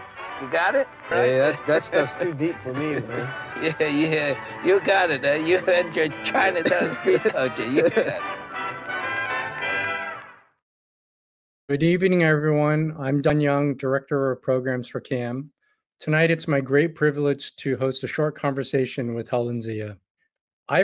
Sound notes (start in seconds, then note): 7.9 laughs